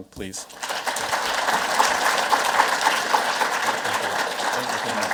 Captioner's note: audience clapping